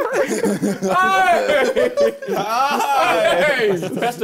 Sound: both mumbling; both laughing

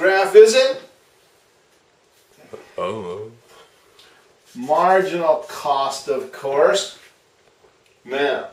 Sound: mumbling voice: I don't know

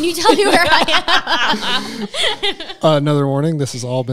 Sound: group laughing

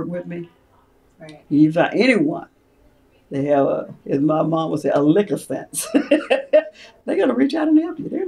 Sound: laughs

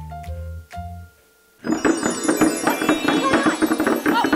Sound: tinkling bells chime; chair clatters

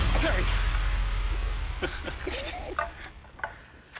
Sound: laughter

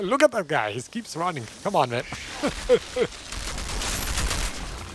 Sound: laughs

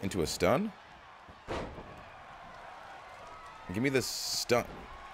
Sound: applause

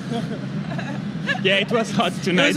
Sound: laughing

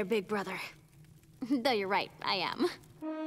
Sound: chuckles

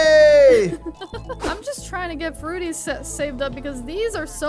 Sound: laughing

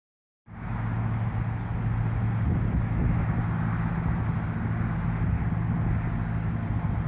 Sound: wind rustling

